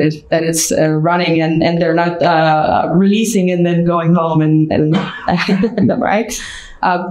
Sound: chuckles

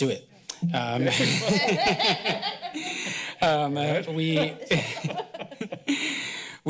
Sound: laughter

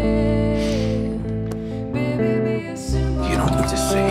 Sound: sniff

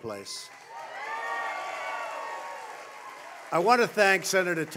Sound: applause

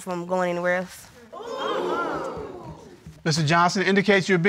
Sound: exclaiming

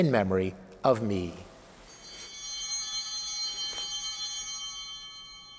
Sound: bell ringing

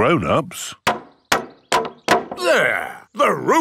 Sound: hammering

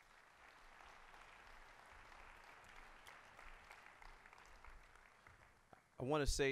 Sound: applause

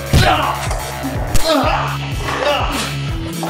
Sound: smack

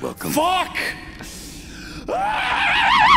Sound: inhales; distorted screaming

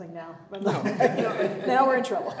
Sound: chuckling

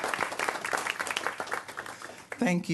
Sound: applause

